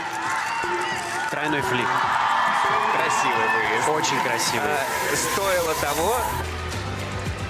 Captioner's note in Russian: ликование